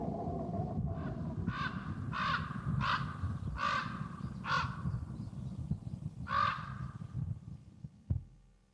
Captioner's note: crow caws